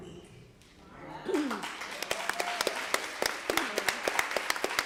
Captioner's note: applause